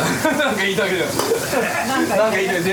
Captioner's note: laughs